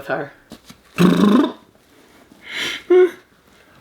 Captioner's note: raspberry blows; laughs